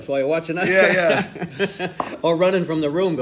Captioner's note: laughing